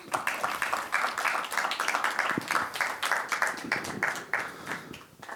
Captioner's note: applause